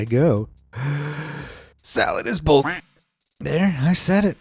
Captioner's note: inhales deeply; quacks